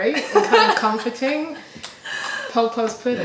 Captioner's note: laughter